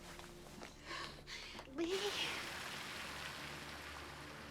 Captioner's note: crying